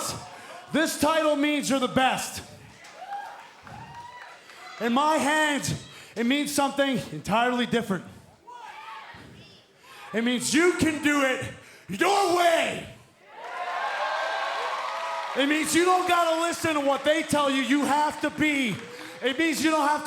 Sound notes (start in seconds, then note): 13.2 cheers and applause